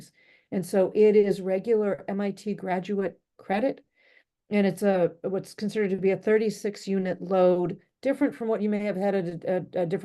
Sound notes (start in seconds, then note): none